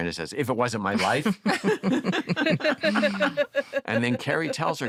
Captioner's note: laughter